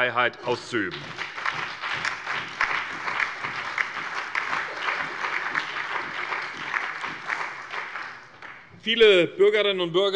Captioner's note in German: Allgemeiner Beifall